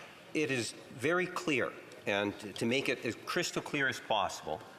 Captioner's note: off mic